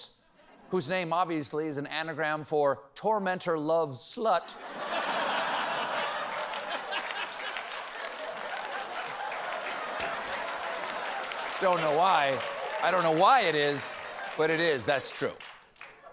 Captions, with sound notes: MULLER-OTVOS-- WHOSE NAME, OBVIOUSLY, IS AN ANAGRAM FOR "TORMENTOR LOVES SLUT." ( LAUGHTER ) ( APPLAUSE ) DON'T KNOW WHY. I DON'T KNOW WHY IT IS, BUT IT IS. THAT'S TRUE.